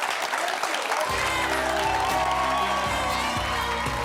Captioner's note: audience applauding